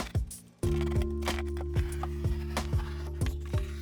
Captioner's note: knife slicing